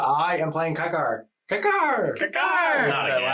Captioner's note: imitates bird